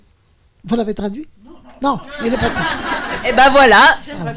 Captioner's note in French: rires